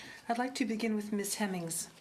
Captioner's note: speaking French